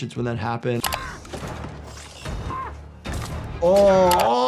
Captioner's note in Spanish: anciana gritando